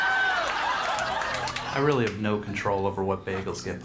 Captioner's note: audience laughing